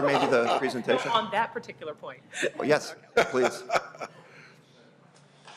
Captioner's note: laughter